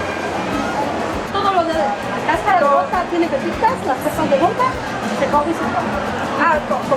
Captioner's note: in Spanish